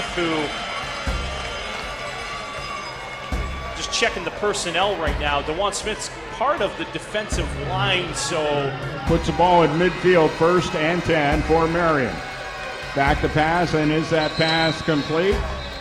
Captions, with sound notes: who (Cowd Noise) Just checking the personnel right now. DeJuan Smith is part of the defensive line so... That puts the ball at mid field. 1st and 10 for Marion. Back to pass. And is that pass complete?